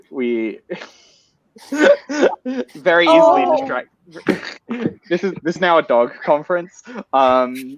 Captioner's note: laughter